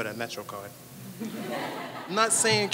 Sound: audience laughs

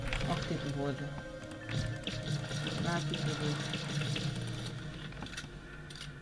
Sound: shots

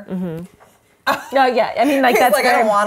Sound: laughs

